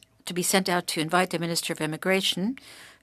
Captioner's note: speaking french